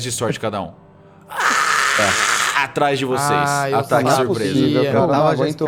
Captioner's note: screams